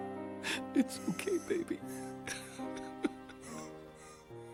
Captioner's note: crying